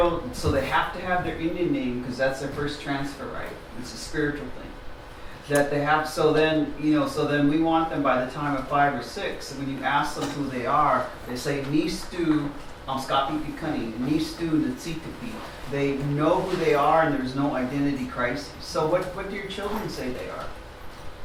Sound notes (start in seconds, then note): 12.5 non-english speech